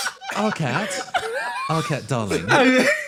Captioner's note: wheeze; laughing